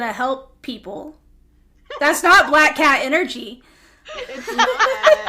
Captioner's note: laughter